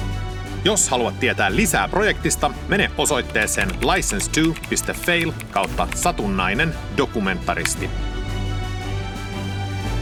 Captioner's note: in Finnish